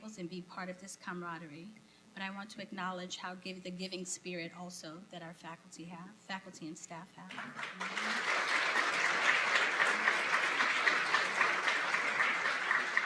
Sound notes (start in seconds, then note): 7.3 applause